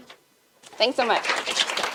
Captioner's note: applause